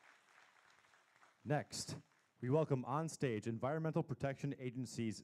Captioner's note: applause